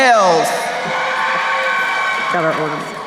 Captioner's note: crowd cheering